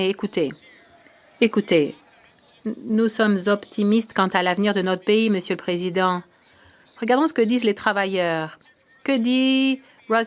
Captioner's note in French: voix de l'interprète